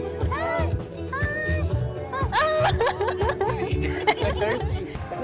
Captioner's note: laughs